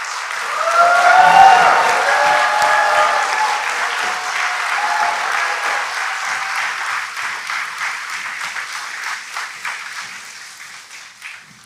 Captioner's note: applause